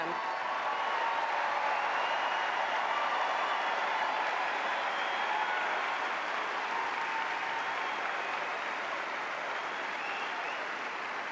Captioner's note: applause